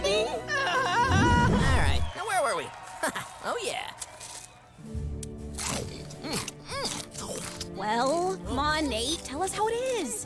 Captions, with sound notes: [screaming] All right, now, where were we? [chuckles] Oh, yeah. [crunching] Mm mm. Well? Come on, Nate, tell us how it is.